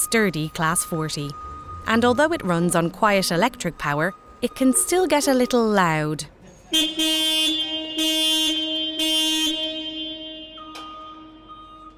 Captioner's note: horn sounds